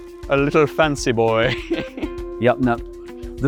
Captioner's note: laughs